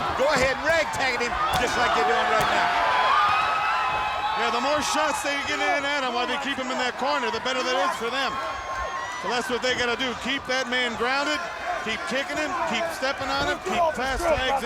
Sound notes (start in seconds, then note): 2.8 blows thudding; 2.8 crowd clamoring